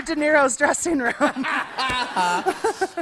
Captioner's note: laughter